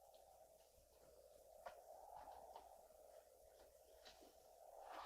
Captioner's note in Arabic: الريح تستمر في الهدير